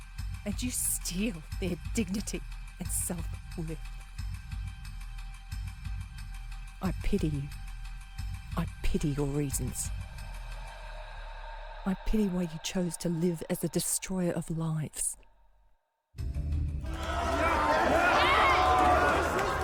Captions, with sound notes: And you steal their dignity and self-worth. I pity you. I pity your reasons. I pity why you chose to live as the destroyer of lives. [crowd cheers]